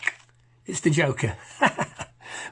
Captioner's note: laughs